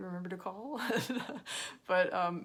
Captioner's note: laughs